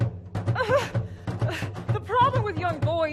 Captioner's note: Hatshepsut whimpers